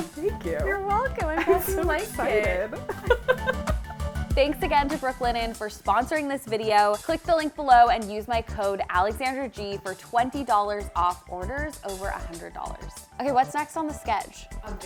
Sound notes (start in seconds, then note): 4.3 laughing